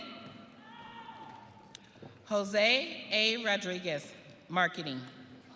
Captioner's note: audience cheering